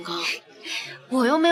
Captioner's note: Shancai laughs softly